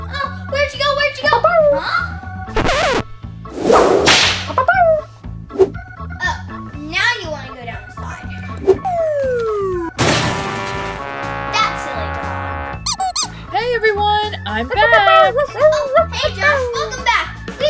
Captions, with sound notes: Oh, where'd you go, where'd you go? (barking) Huh? (Blue barking) - Oh, now you wanna go down the slide. That silly dog. - Hey, everyone, I'm back. - Oh, hey Josh. Welcome back.